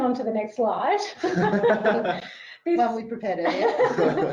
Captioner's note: laughing